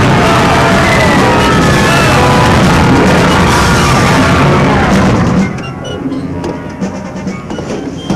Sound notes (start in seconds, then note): 0.0 worshipers yelling; 0.0 dramatic music